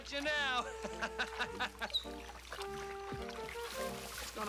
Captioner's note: Edmund laughs; Nero whines